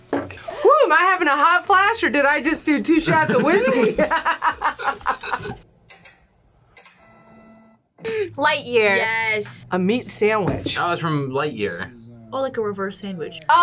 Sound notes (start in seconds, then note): 3.0 laughs